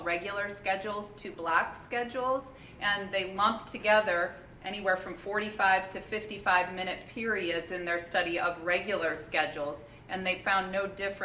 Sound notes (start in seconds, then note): none